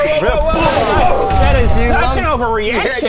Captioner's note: boooom!!!